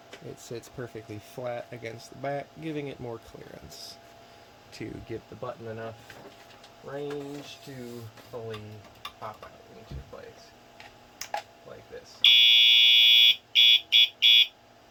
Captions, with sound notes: It sits perfectly flat against the back, giving it more clearance. ...To get the button enough range to fully pop out, into place. [Switch flips] [Intermittent fire alarm sound]